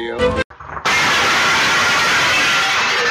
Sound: crash

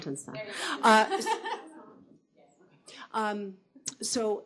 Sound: laughing

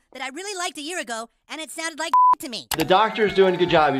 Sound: beep

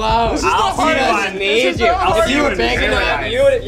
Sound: arguing

